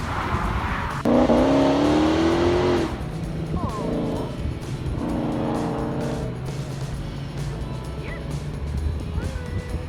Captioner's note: motorcycle revs loudly